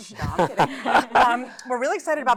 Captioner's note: laughter